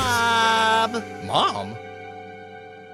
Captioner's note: in normal voice